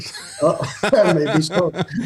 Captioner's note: laughing